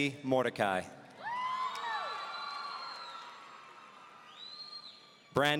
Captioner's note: audience cheering